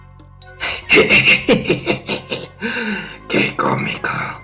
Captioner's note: evil cackle